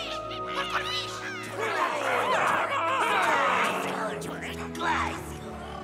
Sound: cheering continues; overlapping warble; happy cheering

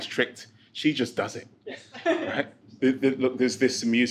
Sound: laughs

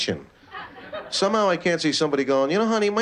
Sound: laughter

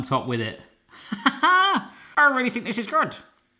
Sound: laughing

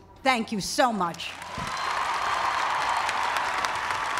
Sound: cheering

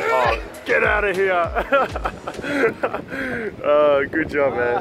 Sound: laughs

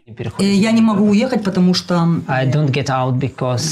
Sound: speaking in foreign language

